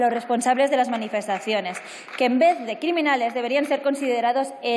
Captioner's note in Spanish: aplausos